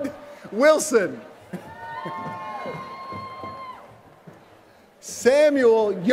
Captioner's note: laughter